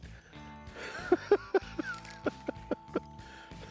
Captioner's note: chuckles